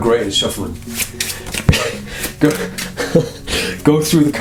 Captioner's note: laughing